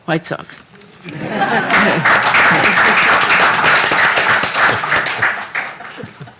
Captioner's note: applause